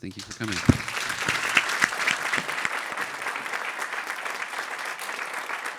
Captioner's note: audience applauding